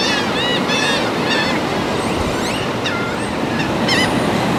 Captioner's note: sea gulls chirping; sounds of the ocean